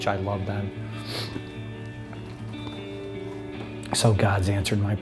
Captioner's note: sniffling